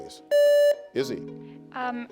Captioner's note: contestant beeping